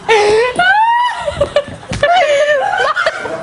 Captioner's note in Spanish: gritos